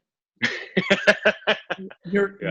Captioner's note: laughs